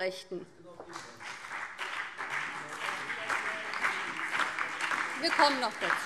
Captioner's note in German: Beifall BÜNDNIS 90/DIE GRÜNEN, vereinzelt SPD und DIE LINKE - Zuruf AfD